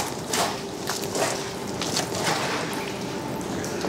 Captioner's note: splashing